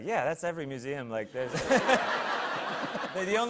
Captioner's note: laughter